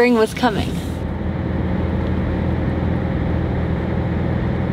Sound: car engine roaring

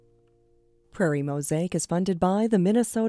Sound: voiceover

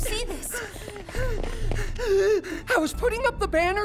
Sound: panting

